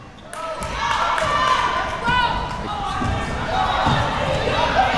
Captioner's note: crowd cheering